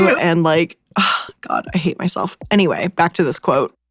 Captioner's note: sighs